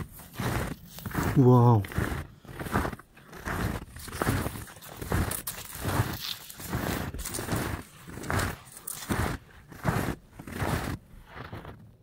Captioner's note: snow crunching